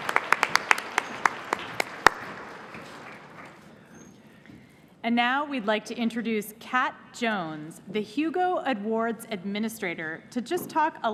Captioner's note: cheers and applause